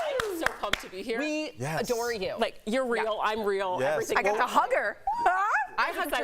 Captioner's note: applause